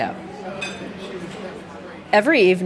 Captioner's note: people chatting